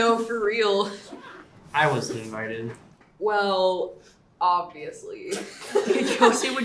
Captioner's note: children laughing